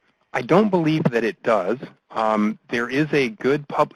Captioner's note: voiceover